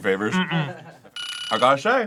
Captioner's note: timer rings